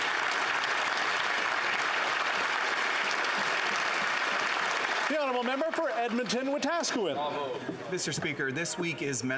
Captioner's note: applause